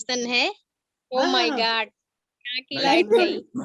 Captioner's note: speaks foreign language